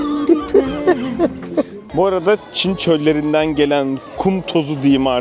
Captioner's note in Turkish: kahkaha